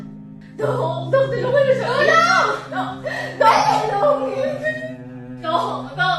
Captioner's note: Eli cries